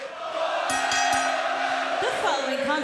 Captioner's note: bell ringing